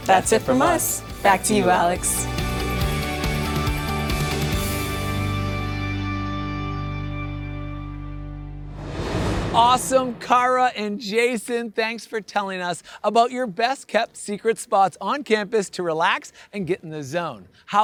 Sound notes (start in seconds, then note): 2.4 bright upbeat music; 8.6 air whooshing